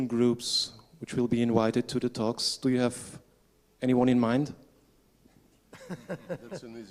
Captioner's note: laughter